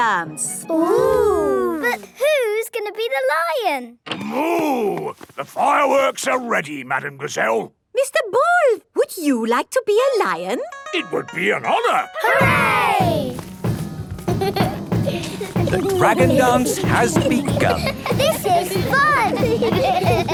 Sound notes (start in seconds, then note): 12.1 drumming; 12.2 laughter; 19.2 laughter